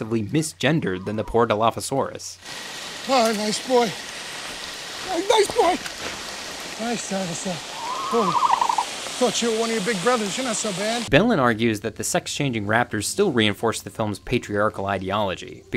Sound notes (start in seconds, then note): 7.7 dinosaur coos